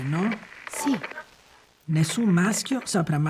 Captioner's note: sound of old radio tuning